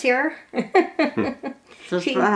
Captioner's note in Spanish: Risas